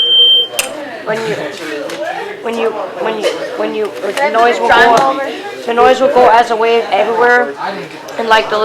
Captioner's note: chuckles